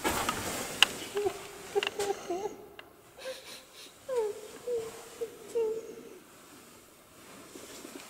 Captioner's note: a lady is crying